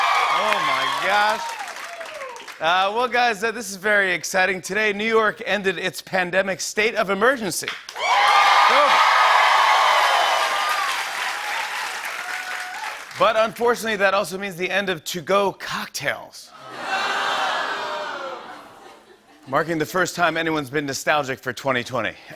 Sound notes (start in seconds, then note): 0.0 cheers and applause; 7.9 cheers and applause; 16.6 audience boos